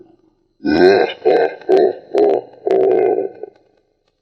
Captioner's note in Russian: адский смех